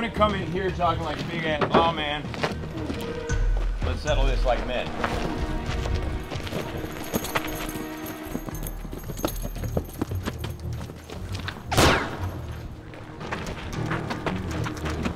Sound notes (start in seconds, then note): 7.6 dramatic music; 11.7 gun fires